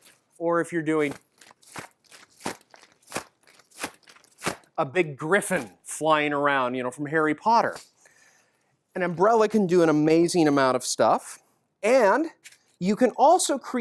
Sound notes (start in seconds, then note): 1.1 bigger wing sound